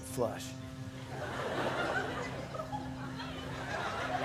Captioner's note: laughter